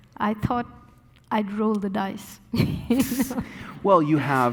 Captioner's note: laughing